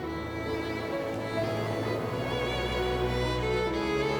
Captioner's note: waves breaking